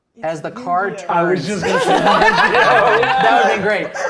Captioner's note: players laughing